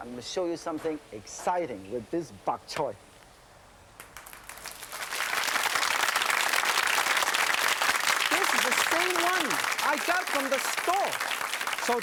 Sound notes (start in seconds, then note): 4.0 audience applauding